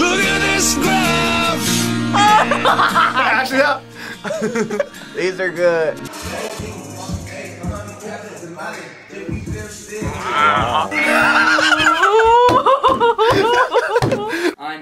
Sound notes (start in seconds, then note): 2.1 laughs; 4.0 both laugh; 6.4 hip hop music plays; 11.5 laughs